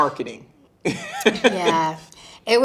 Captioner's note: interviewer chuckling